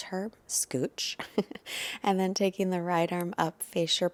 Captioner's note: giggling